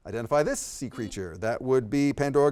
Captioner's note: beep